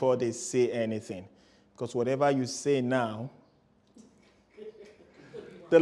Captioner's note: laughter